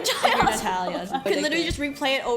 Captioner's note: laughs